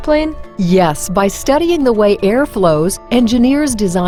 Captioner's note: voiceover